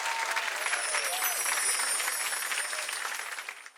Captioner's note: bells shimmering